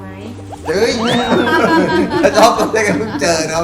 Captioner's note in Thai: หัวเราะ